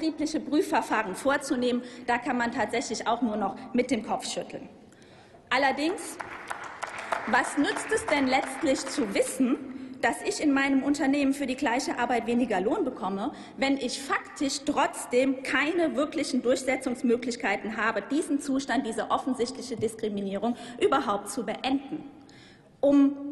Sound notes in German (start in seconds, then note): 5.7 Applaus